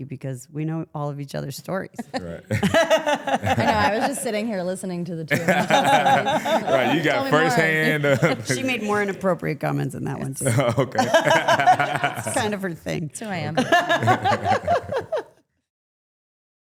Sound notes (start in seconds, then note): 2.0 Stephanie chuckling; 2.0 participant chuckling; 5.3 Trick and Stephanie chuckling; 7.8 chuckling; 10.4 chuckling; 10.4 Stephanie chuckling; 13.2 Stephanie and Trick chuckling